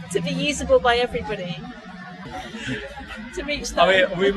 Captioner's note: smiling / laughing